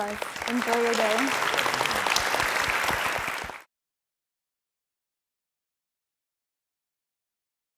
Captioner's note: applause